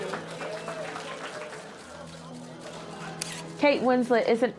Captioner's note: audience clap